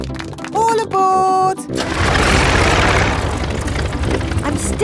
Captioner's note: plane engine starts